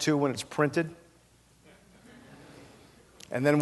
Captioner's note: laughter